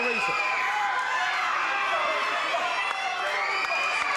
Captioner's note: audience cheers